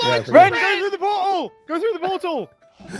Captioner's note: group yelling